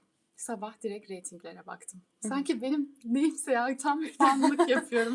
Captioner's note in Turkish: kahkaha